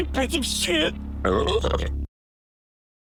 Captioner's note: burps in terror